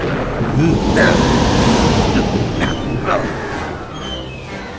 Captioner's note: grunting